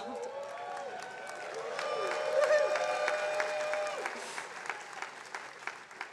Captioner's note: attendees cheering and applauding